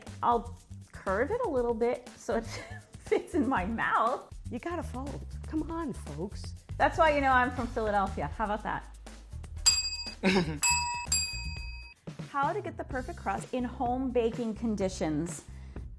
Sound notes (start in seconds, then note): 2.5 chuckles; 10.6 bells ring